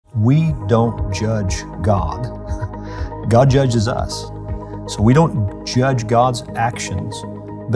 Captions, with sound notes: - We don't judge God, (laughs) God judges us. So we don't judge God's actions